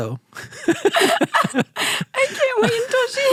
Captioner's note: both laughing